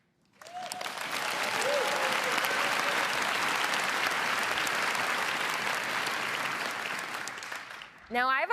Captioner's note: applause